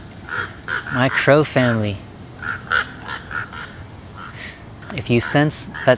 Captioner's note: crows cawing